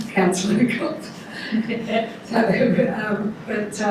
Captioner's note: laughing